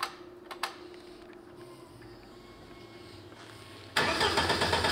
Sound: engine clicking, starting; engine sputtering

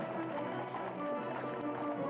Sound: hooves clopping

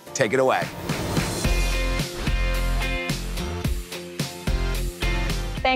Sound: upbeat music; transition whooshes

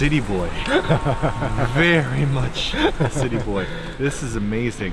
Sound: chuckling

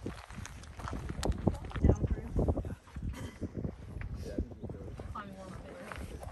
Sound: chatter and laughter

